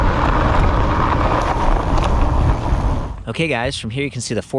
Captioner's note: bicycle clinking